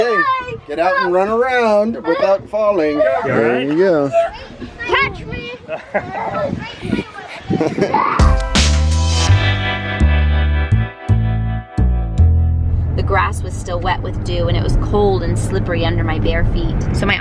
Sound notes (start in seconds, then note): 5.8 laughs; 8.2 lively bass music